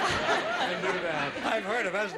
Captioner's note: laughing